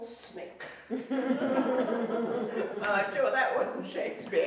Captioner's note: laughing